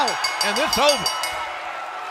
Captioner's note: bell ringing